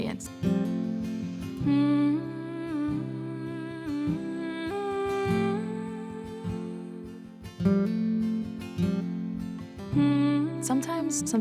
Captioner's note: humming